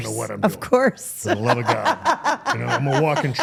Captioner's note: interviewer laughing